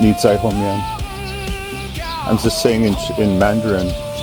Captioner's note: crowd